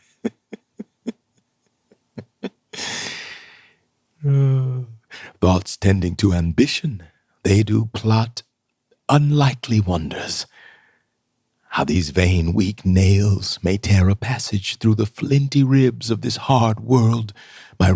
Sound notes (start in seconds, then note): 0.0 laughing; 2.7 sigh